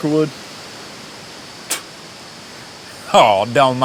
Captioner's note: Tex spits